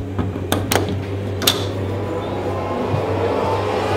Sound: door lock opens

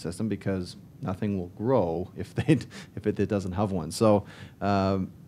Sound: laughs

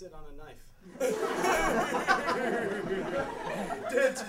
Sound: laughing

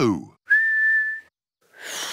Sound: whistles; failed whistle

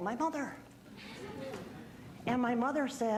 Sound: audience laughing

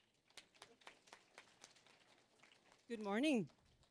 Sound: applause

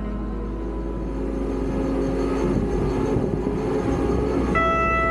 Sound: machine whirring; machine beeps; machine whirring

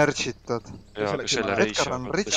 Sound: everybody talking

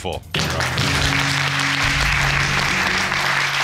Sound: audience clapping

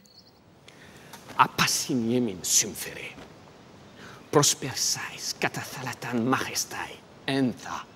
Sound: Themistocles speaking in foreign language

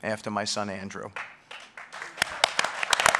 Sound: applause

